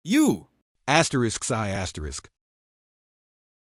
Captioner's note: sigh